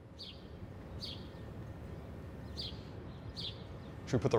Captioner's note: birds chirping